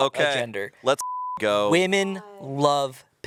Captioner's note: beep